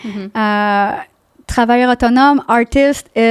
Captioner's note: in french